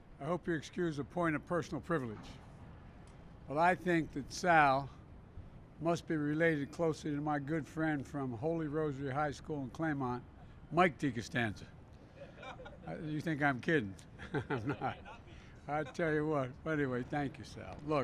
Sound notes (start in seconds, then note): 14.1 laughter; 14.1 laughs